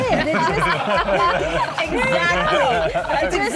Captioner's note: laughing